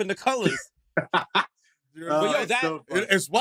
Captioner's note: laughter